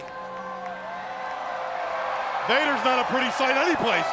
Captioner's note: crowd cheering